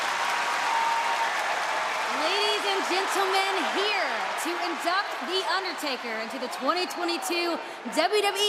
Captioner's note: cheers and applause